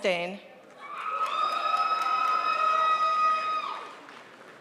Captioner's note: crowd applauds